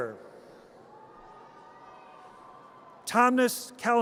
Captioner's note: audience cheers